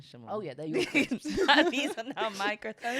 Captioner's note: both laughing